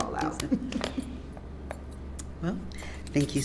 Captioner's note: laughs